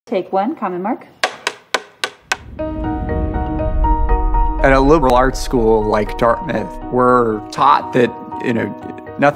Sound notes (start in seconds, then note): 1.2 clapboard clicking; 2.7 gentle music